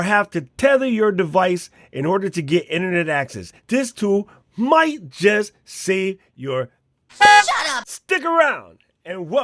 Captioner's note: horn